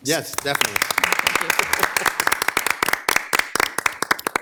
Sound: all clapping

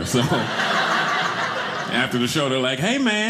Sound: audience laughing

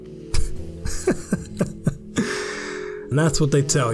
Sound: laughs

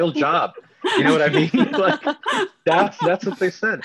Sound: laughing

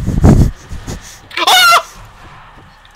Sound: girly scream

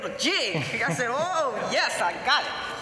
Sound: laughter

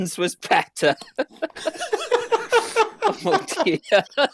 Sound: laughter

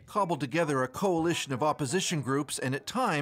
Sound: speaking alternate language

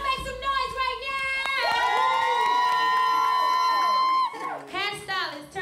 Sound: cheers and applause

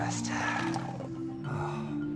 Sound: exhales

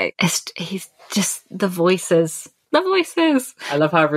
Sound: sing-song

